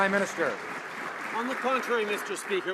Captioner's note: some Applause